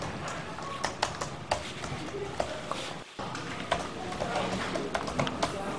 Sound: Cindy's typing

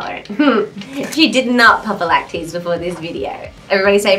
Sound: chuckles

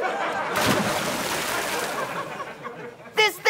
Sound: splashes

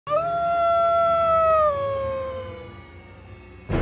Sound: howling

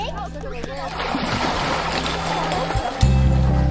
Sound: scream & deep splash

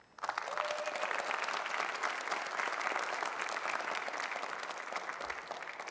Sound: audience cheering and applauding

